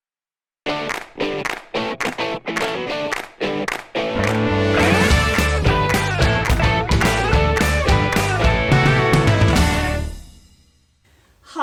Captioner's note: claps